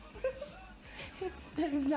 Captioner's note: kind of Scary Laughter